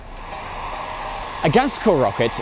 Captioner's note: hairdryer blowing